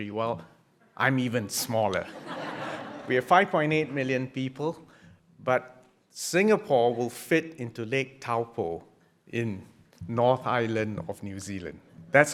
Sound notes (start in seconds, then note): 2.0 audience laughing